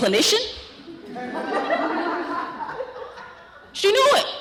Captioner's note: laughter